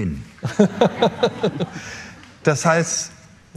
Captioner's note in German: Lachen